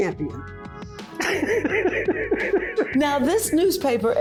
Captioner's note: laughing